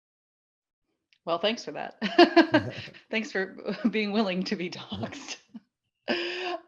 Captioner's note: laughs